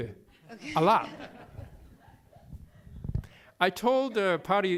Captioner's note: laughter